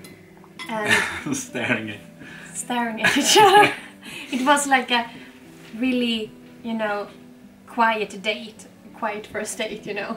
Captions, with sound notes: And... -[Laughs] Staring at, -Staring at each other! It was like a really, you know Quiet date, quiet first date, you know.